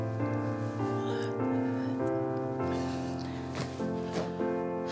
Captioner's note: yawning